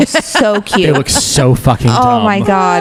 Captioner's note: laughs